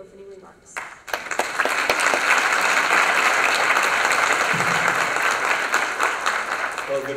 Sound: applause

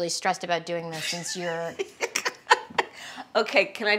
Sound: laughing

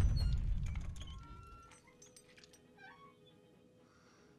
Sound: chandelier squeaks

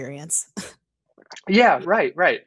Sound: giggling

